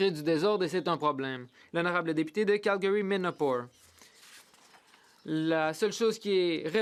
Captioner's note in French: voix de l'interprète